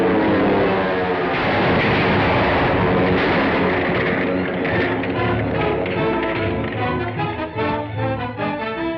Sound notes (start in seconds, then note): 1.2 explosion